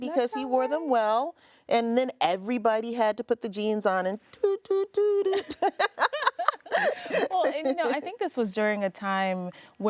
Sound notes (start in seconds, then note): 5.3 laughing